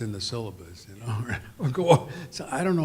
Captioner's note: laughs